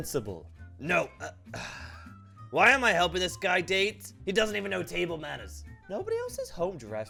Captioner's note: sigh